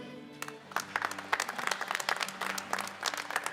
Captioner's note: applause